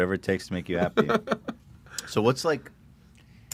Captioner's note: laughs